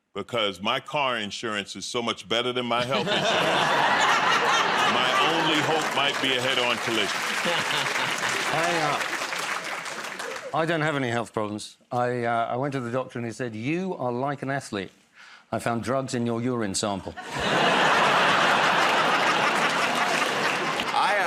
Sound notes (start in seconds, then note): 2.8 laughter; 7.9 laughs; 9.4 applause; 17.1 laughter